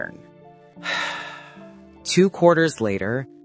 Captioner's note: sigh